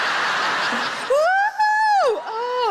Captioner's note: audience laughs; Sarah whoops